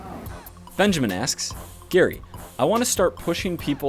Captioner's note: voiceover